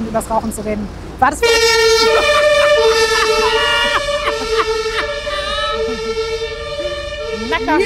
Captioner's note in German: Martinshorn